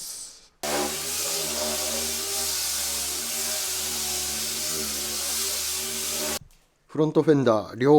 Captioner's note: working sound